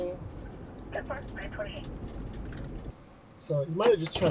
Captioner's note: radio chattering